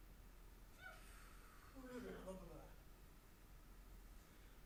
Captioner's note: performer breaths deeply; performer babbles